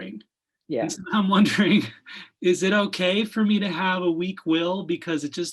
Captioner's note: chuckles